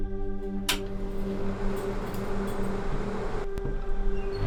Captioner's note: fan whirring